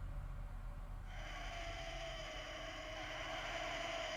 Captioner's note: creatures screeching